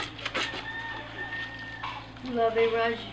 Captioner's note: scrubbing; rooster crows nearby; speaking Creole